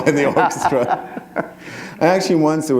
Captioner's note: laughter